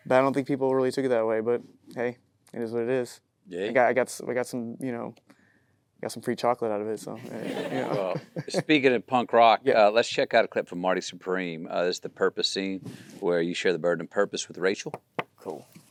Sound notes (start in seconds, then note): 7.2 Timothée laughs